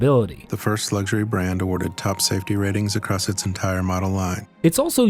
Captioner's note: voice-over